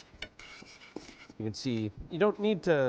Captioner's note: scraping pan